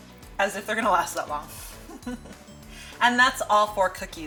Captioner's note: laughs